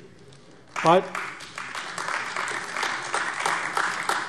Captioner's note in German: Beifall AfD